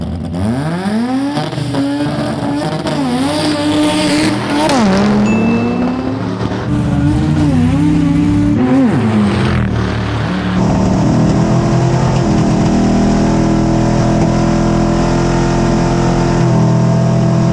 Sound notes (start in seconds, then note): 1.2 engines roar; 5.0 bell rings